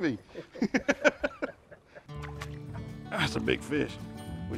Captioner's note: laughing